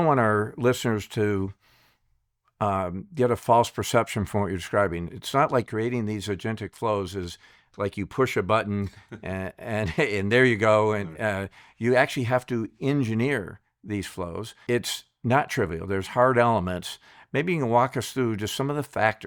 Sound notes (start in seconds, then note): 8.7 chuckles